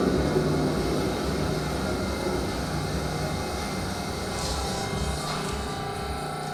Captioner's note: sounds of subway doors opening and conductor announcements